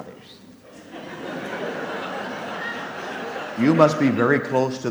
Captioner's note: audience laughs